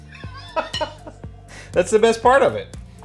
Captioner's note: laughing